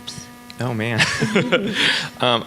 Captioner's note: laughs